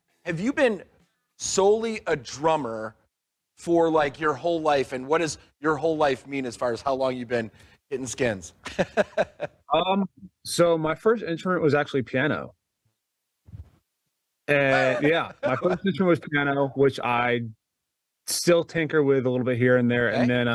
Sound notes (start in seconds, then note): 8.6 laughs; 14.6 laughs